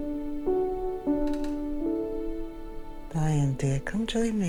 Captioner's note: sentimental music; floor creaking